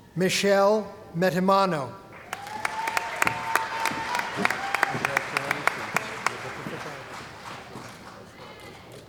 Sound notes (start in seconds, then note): 2.1 cheering & Applause